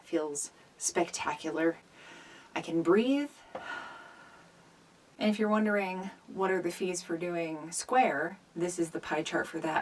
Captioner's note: exhales